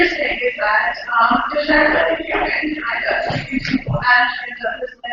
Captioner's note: static